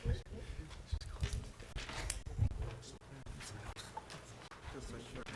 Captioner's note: board chatting quietly